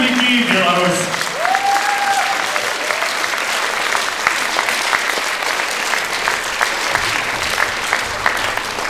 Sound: applause

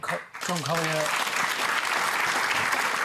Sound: applause

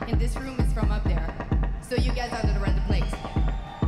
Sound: applause

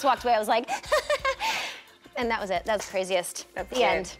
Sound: giggles

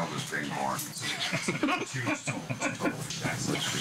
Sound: laughter

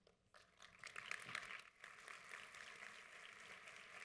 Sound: audience applauds

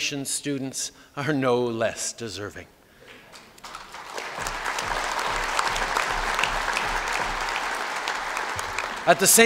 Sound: applause

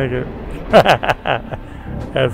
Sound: laughs

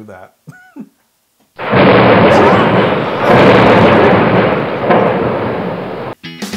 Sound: laugh

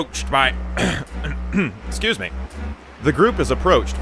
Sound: clearing throat

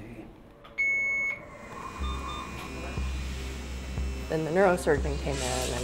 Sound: hospital machines beeping

